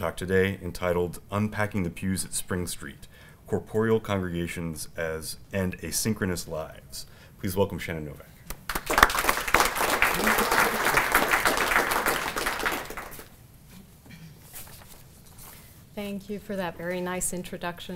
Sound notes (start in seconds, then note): 8.5 applause